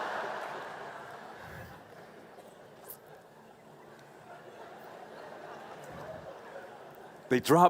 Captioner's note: laughing